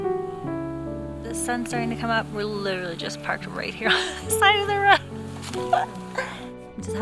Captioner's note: giggles